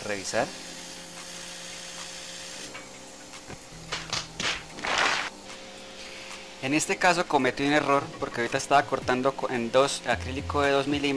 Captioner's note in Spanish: Aplausos